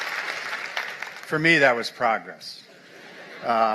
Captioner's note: applause